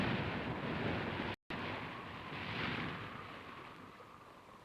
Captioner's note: wind blowing